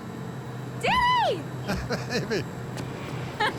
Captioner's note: laughing